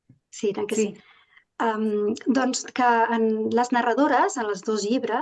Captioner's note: speaking in Catalan